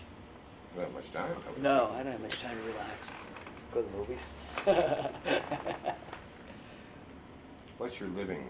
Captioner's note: laughs